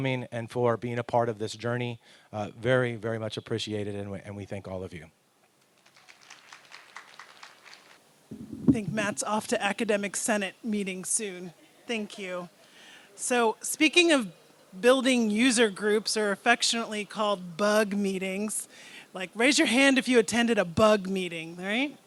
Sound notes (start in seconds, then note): 5.7 applause